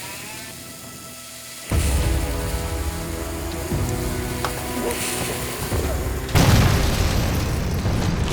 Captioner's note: sizzling sound, door creaks open; sizzling; explosion